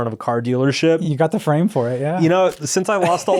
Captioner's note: laughs